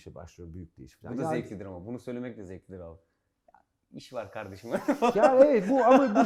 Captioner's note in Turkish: laughter